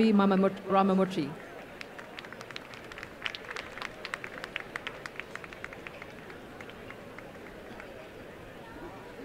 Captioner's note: applause